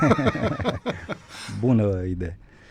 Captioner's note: laughter